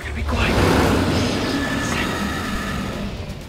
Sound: roar

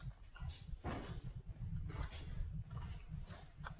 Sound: wood slams

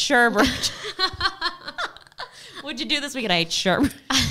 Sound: both laughing

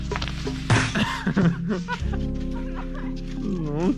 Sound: laughing

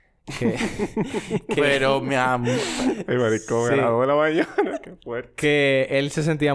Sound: laughs

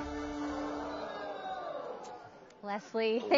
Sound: audience gasping

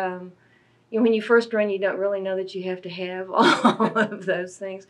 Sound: laughs

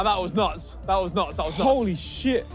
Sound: none

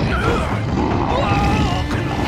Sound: yelling

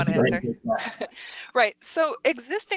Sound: laughs

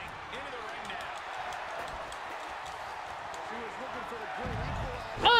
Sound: applause

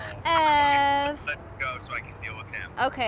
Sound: father On Phone

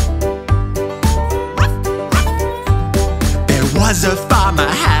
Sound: dog barking

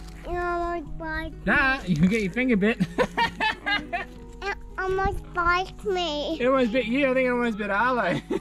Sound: laughs

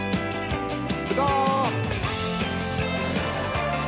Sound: crashing

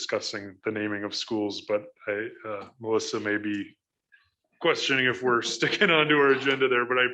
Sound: chuckles

